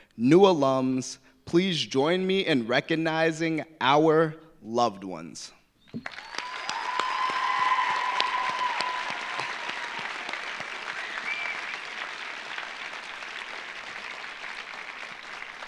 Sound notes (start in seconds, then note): 6.0 audience applauding; 6.0 audience cheering